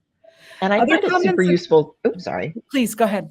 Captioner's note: indistinct overlapping chatter